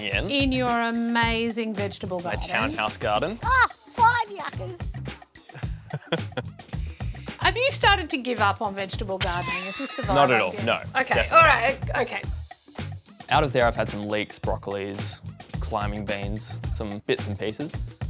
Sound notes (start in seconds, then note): 5.5 chuckles